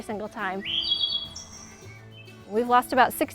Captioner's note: thrush singing